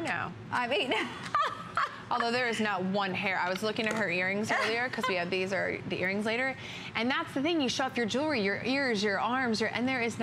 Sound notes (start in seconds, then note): 0.9 laughter